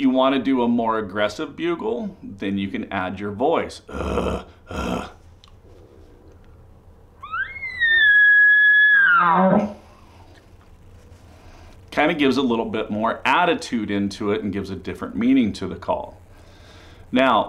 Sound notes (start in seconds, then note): 3.8 makes glottal grunt sound; 7.2 elk call sound